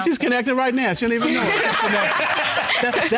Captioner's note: audience laugh